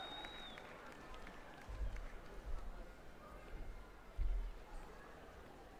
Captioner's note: applause